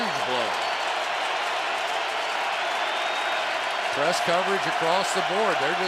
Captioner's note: crowd cheering